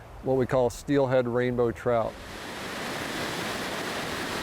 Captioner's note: water rushing